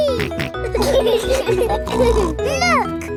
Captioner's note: laughing